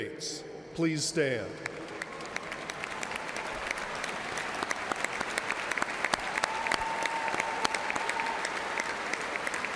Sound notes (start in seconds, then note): 0.8 cheers and applause